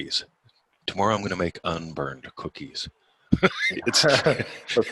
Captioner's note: laughing